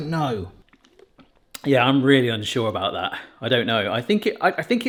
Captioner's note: swigging